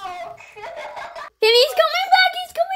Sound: laughter

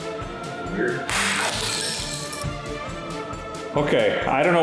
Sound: shell smashes

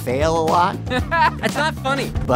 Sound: MILES laughs

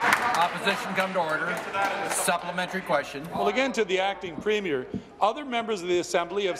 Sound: applause

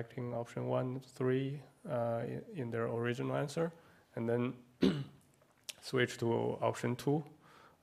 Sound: cough

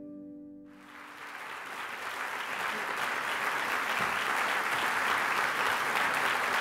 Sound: applause

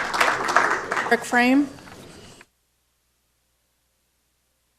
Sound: applause

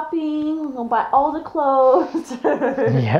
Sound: laughs

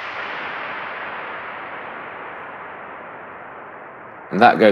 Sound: loud gunshot reverberates

